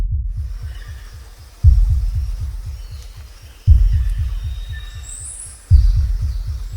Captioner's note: birds chirping; bugs buzzing